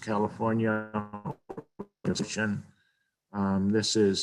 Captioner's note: audio distorting